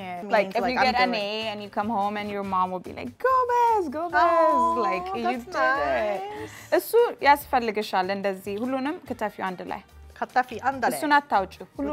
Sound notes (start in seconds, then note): 3.8 Amharic; 6.6 speaking Amharic